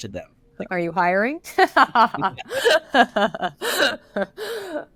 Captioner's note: laughs